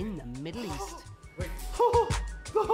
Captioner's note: gasping